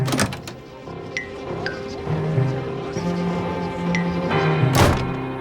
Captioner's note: crowd murmuring quietly